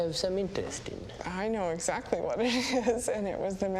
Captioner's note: 笑声; chuckles